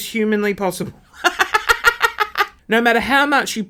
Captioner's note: laughing